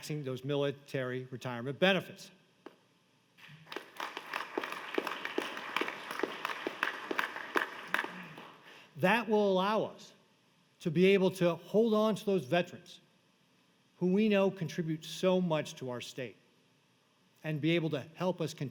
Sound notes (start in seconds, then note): 7.2 applause